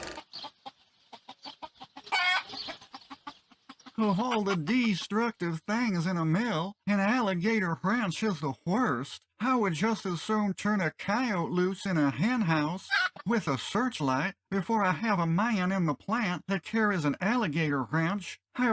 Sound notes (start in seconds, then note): 0.1 chicken noises; 1.2 bawk!; 12.8 bawk!